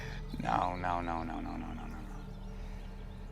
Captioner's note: chuckles